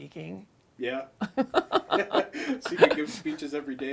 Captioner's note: both laughing